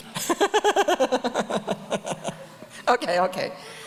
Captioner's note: audience laughs; laughs